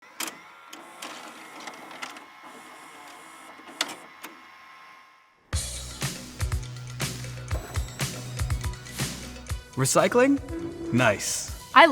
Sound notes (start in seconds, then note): 0.0 video player clatters and whirs; 5.6 upbeat music